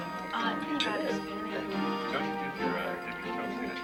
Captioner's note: chattering